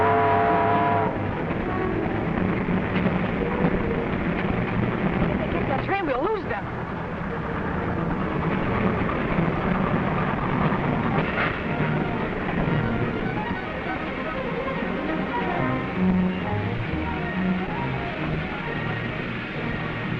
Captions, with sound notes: (train whistle blowing) - If they get that train, we'll lose them. (train rumbling)